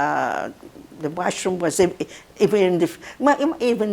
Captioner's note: mumbling